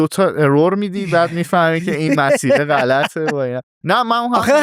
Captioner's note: laughs